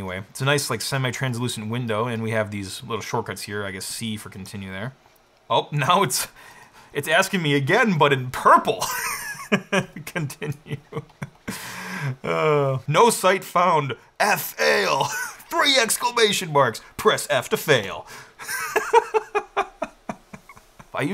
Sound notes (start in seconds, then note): 8.8 chuckles; 18.4 laughs